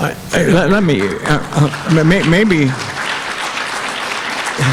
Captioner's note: audience applauding